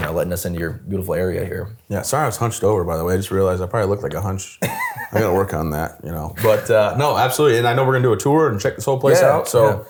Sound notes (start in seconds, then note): 4.6 laughs